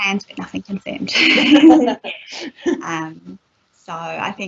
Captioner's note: laughter